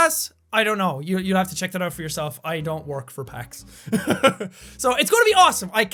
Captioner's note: laughs